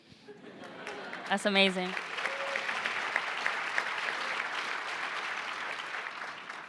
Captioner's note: applause